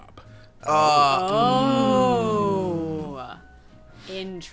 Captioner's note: everyone gasps